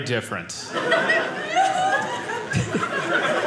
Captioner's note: audience laughing